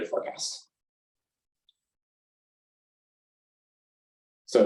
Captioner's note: silence